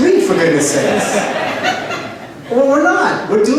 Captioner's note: laughter